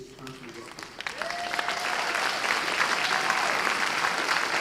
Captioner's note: audience applause